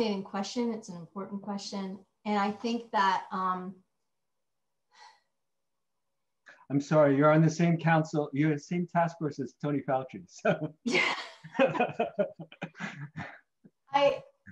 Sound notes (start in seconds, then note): 11.4 laughing